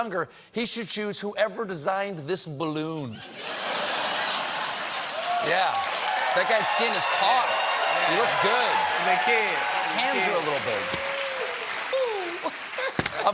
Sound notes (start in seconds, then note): 3.2 laughter